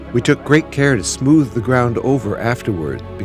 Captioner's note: non-english speech